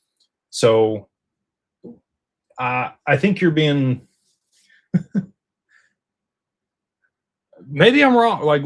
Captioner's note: laughter